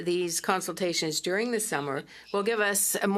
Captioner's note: speaking French